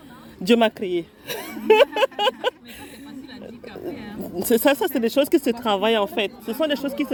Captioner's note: laughs